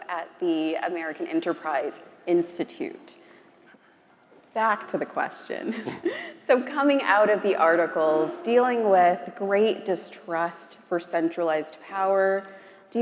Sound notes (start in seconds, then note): 5.9 chuckles